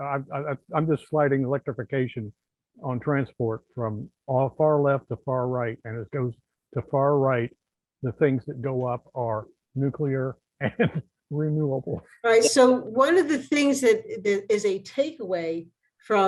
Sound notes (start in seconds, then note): 10.6 laughs